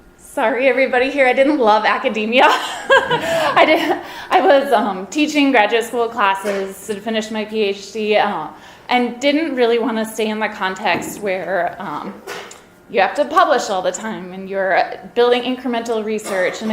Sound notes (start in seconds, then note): 2.5 and audience laughs